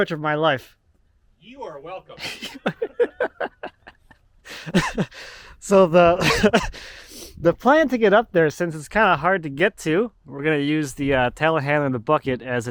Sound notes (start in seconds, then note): 4.4 laughing